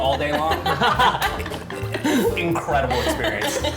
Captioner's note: all laugh